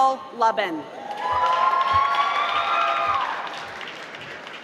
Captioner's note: applause